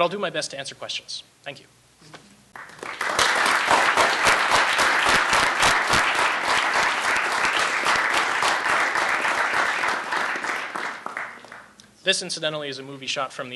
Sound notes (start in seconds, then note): 2.9 audience applauds